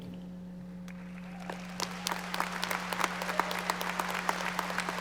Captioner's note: audience applauding